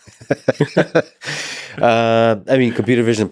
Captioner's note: both chuckling